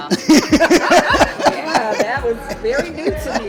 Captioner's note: laughing